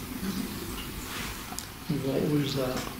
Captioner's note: ghostly Voice